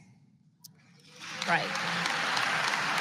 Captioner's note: applause